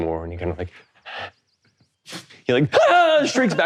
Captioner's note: whimpering; shrieks